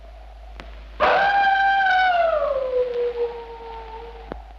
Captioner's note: wolf howling